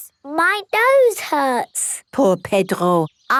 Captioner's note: nasal voice